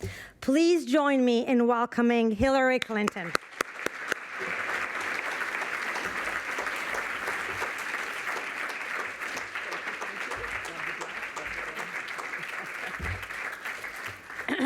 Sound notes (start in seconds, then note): 2.7 applause